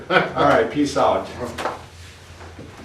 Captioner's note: chuckles